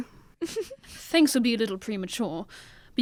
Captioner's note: WATSON giggles